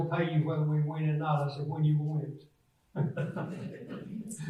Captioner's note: laughs; audience laughs